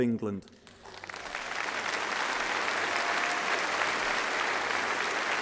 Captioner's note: applause